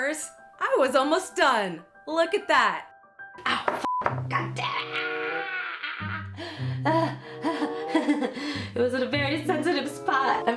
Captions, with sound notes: I was almost done. Look at that. Ow, f*ck. Goddamnit. (pterodactyl screams) (chuckle) It was in a very sensitive spot,